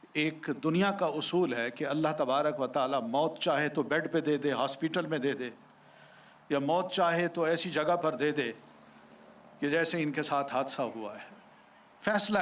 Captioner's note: speaking urdu